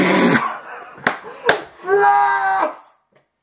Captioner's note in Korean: 박수 박수